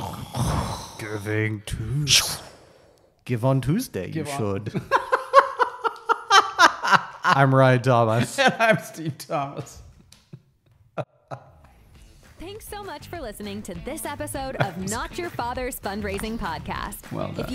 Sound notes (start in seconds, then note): 2.2 light Saber Sound; 4.4 laughs; 11.0 laughs